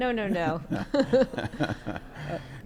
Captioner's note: both laughing